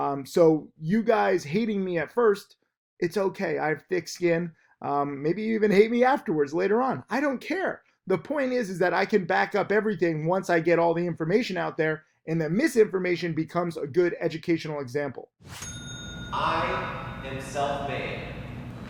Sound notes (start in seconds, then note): 15.4 air whooshes; 15.5 bell dings